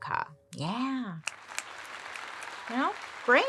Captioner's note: crowd applauding